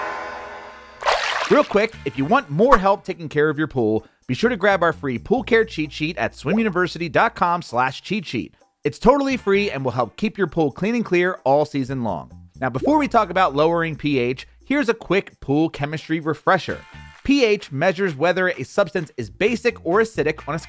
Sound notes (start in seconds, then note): 1.0 water burbles